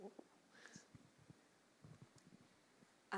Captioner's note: none